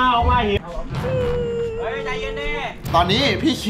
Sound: cries

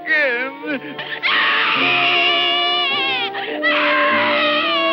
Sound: crying

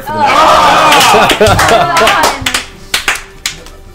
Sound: all groan

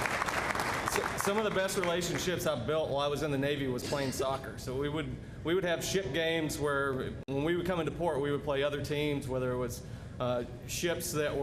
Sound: applause

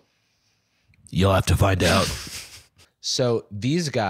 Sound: deep voice

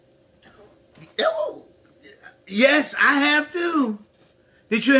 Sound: exclaims

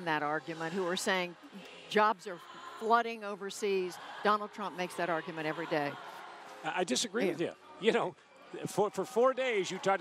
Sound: applause

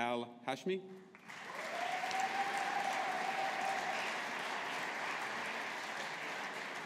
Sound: audience applauding

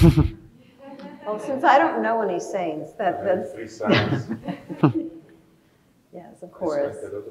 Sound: laughs

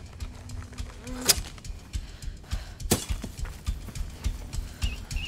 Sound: scissors cutting; whistle blowing

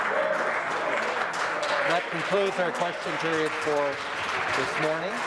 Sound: some Applause

